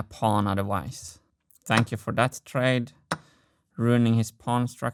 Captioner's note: clack